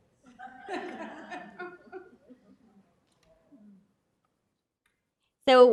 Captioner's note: laughter